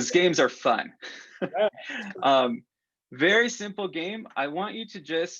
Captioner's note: laughter